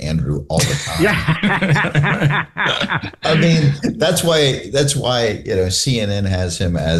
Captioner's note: laughter